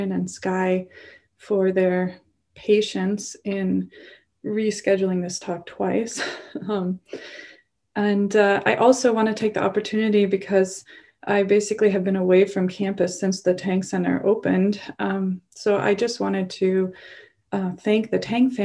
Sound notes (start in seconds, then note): 6.2 chuckles